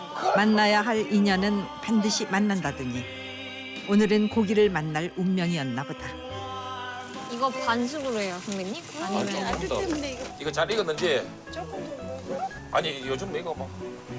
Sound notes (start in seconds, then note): 10.4 sizzling